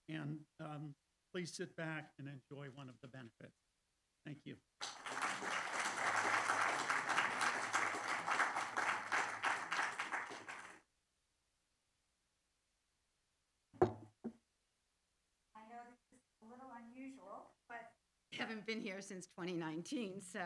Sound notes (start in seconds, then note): 4.8 audience applauding; 13.8 object thudding